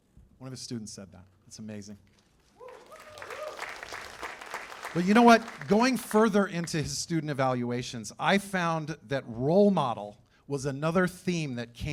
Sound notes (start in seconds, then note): 2.5 cheers and applause